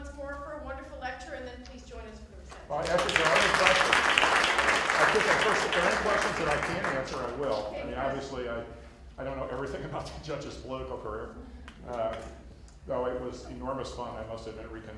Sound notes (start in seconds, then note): 2.5 applause